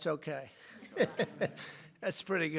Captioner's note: laughter